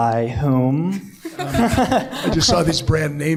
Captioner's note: laughter